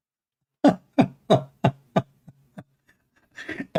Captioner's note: Ketawa